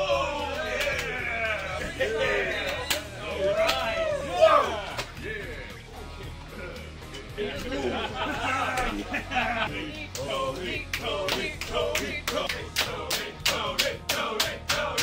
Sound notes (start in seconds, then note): 8.0 people laughing; 11.0 people chanting